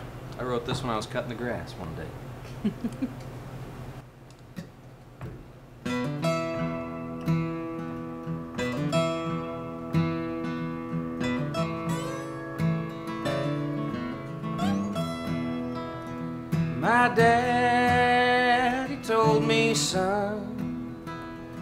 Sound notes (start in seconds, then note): 2.5 chuckling; 4.2 light guitar music